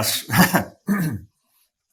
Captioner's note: laughs